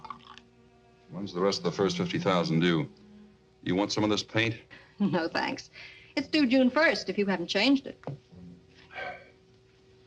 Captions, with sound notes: When's the rest of the first 50,000 due? Do you want some of this paint? (chuckles) No, thanks. It's due June 1st, if you haven't changed it.